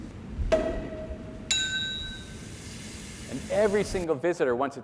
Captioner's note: speaking in foreign language; champagne cork popping; champagne glasses clinking